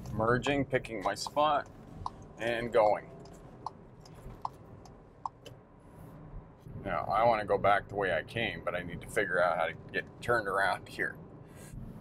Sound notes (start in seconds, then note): 5.1 car signal clicking